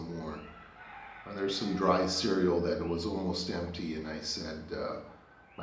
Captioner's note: roosters crowing